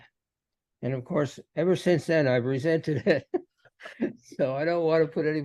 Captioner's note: laughs